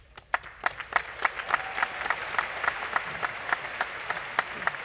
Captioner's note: applause